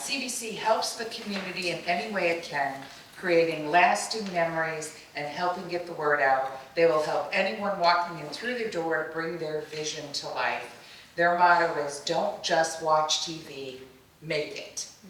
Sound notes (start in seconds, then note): none